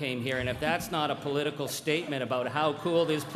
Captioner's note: crowd laughing